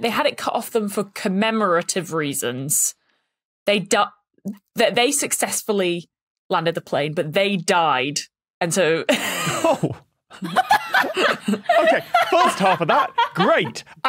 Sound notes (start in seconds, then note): 10.4 snickers; 10.8 cackles heartily